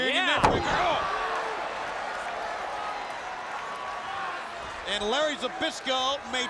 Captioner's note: crowd cheering